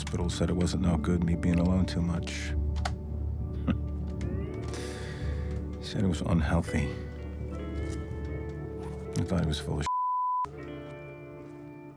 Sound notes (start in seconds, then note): 3.5 laughs; 7.8 slow Hawaiian music